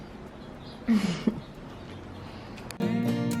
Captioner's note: chuckling; lighthearted music